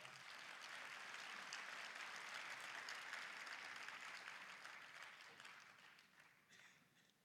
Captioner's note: applause